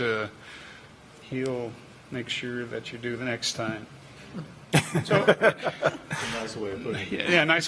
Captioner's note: laughter